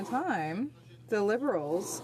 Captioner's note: speaking French